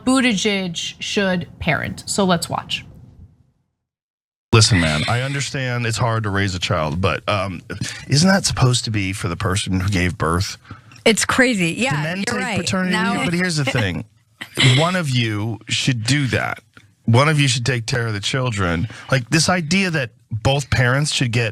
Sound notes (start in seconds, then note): 11.9 laugh